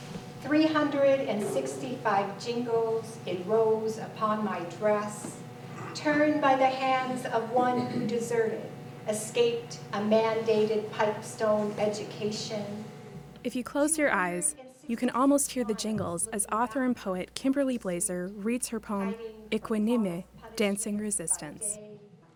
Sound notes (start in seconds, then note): 18.9 speaking foreign language